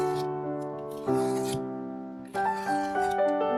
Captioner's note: peeling off masking tape sounds